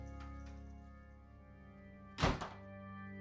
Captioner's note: door slams in background